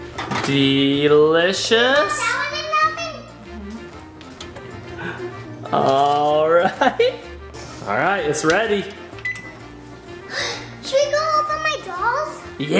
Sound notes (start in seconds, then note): 10.2 gasps